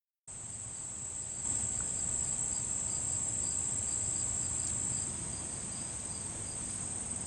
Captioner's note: woodland noises